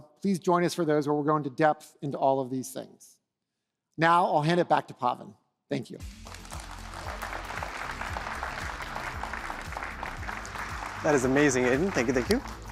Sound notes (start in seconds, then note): 6.0 applause